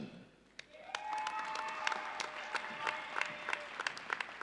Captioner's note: audience cheering